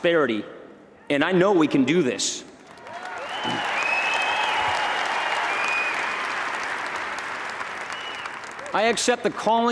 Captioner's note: applause